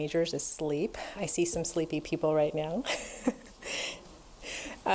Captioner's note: laughs